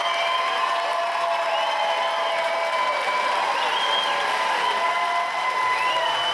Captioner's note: cheering, applause